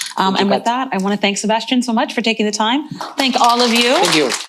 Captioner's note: applause